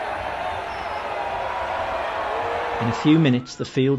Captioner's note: crowed chanting